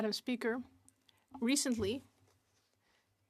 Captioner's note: speaking French